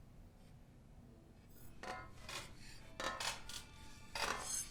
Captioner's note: clanking metal